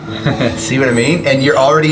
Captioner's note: chuckles